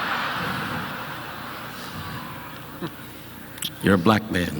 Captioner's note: audience laughing